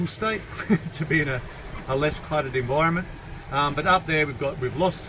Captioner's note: chuckles